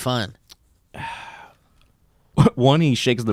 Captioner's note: sighs